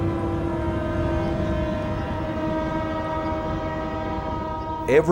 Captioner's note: train horn blowing